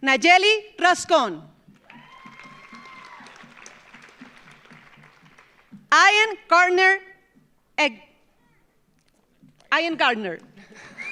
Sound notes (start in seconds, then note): 1.8 audience cheers; 1.8 audience applauds; 10.5 laughs